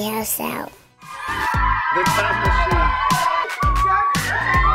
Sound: cheering

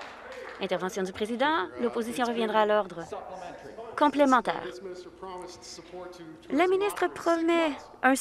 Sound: applause

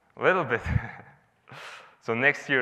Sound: laughs

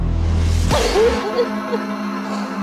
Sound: sobbing

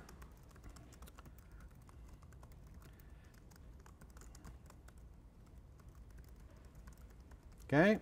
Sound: typing Sounds

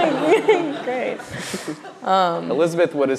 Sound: laughs

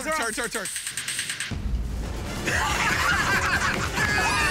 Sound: laughter

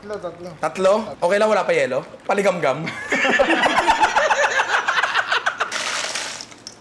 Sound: laughter

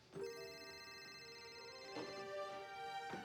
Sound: phone ringing

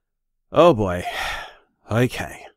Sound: sighs

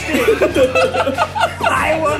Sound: laughing

